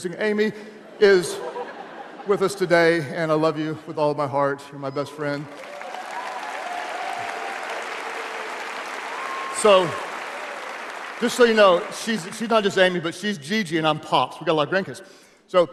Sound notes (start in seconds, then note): 0.7 audience laughing; 5.4 audience applauding